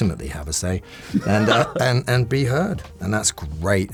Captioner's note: laughs